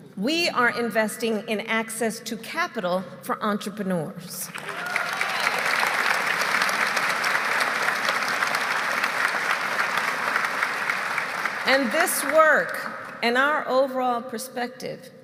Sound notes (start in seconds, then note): 4.4 applause